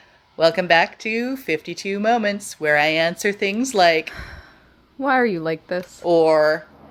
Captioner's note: sigh